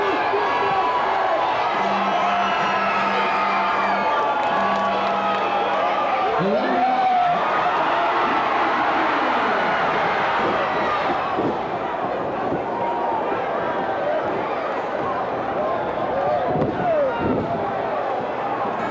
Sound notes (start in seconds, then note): 1.6 bell rings; 2.4 crowd boos; 8.5 cheers